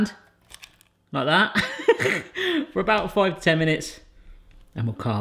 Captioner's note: laughs